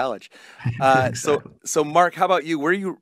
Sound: laughs

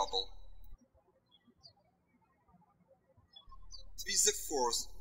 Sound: birds chirping

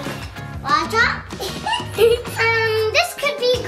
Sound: giggles

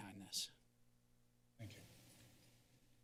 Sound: silence

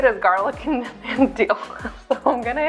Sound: laughs

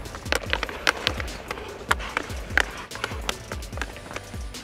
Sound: hockey stick clinking

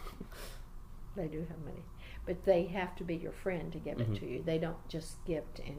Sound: laughs

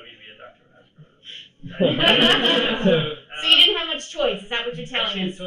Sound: laughter

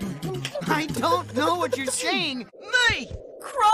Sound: beatboxing

